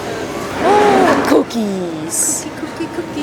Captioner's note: gasps